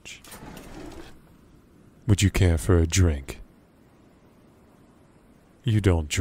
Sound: cabinet, Opening, and Closing

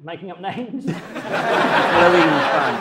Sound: audience laughs

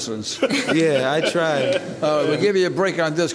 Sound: laughing

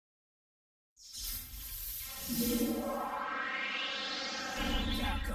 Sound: electricity sparking, followed by a digitized wind tunnel sound

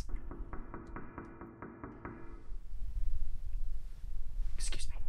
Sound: knocking on door

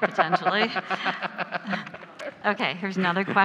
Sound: laughs; laugh

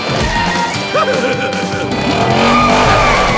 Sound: laughing

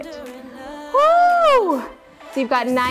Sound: shouts

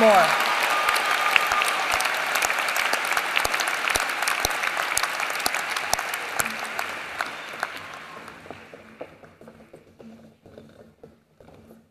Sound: applause

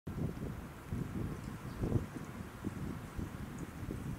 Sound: wind whistling

